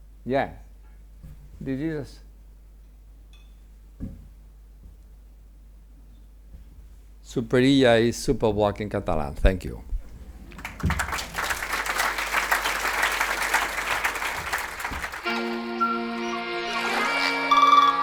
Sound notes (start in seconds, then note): 10.4 attendees applaud; 15.2 upbeat music